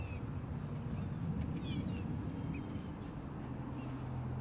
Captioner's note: gulls crying